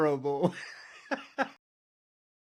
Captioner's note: laughing